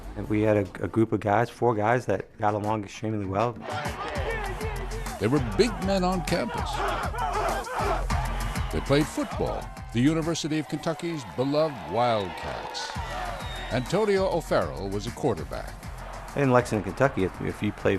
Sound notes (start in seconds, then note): 3.5 cheering; 6.5 chanting; 12.5 cheering